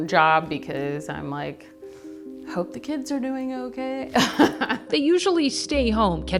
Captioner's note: laughs